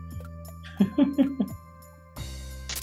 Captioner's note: chuckles